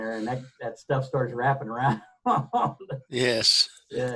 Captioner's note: laughs